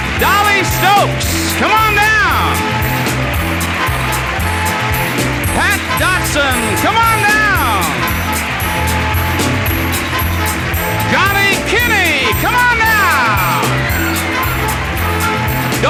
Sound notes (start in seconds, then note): 2.5 audience applauding and upbeat music continues; 13.4 audience applauding and upbeat music continues